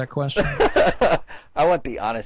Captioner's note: laughs